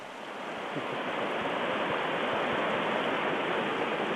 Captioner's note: rushing water